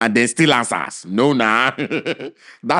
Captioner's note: chuckles